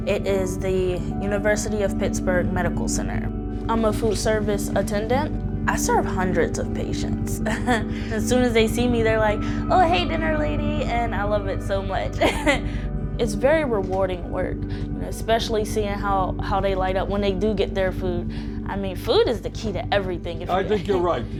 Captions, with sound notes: It is the University of Pittsburgh Medical Center. I'm a food service attendant. I serve hundreds of patients. (chuckles) As soon as they see me, they're like, "Oh hey, dinner lady," and I love it so much. It's very rewarding work, especially seeing how they light up when they do get their food. I mean, food is the key to everything. - I think you're right, you know that.